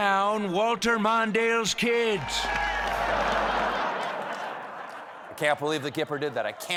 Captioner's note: laughter